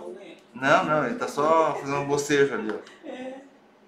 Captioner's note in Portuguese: risos